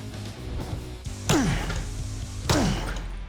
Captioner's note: grunting